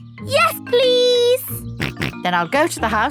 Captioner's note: snorts